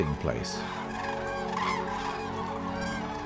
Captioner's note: cranes cawing